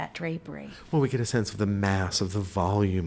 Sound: voiceover

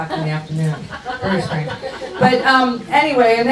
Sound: audience laughs

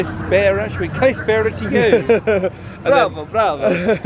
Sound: speaks Greek

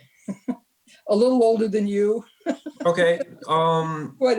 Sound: giggles

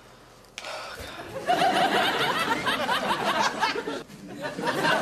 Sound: audience laughs

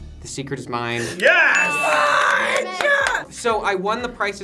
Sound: group cheers

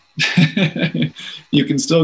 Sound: laughs

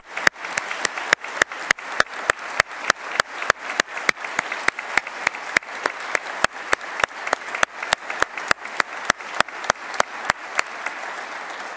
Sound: applause

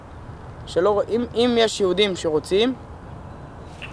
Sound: soldier speaks Hebrew

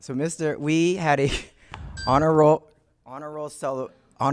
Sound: chuckles

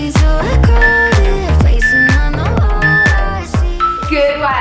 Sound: timer beeps

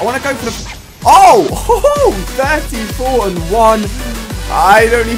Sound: laugh

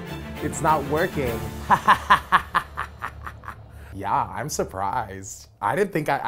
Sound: laugh

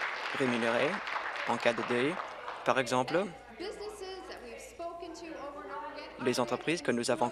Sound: applause

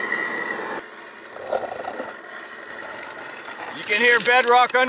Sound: digger scraps

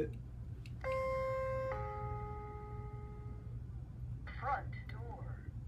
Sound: alarm sounding

